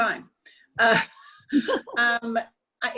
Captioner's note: laughing